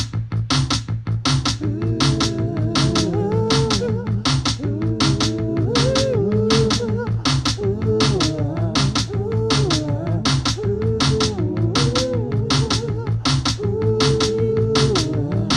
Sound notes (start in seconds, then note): 0.0 percussive music; 1.6 multiple vocalizations increase; 1.7 percussive music